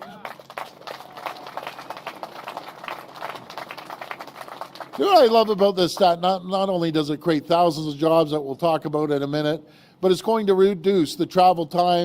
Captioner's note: applause